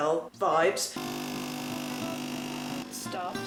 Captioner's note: coffee Machine Noises